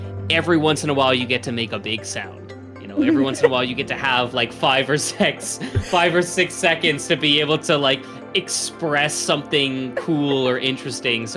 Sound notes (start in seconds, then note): 2.9 chuckles; 3.0 laughs; 9.8 chuckles